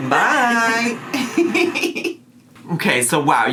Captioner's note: laughs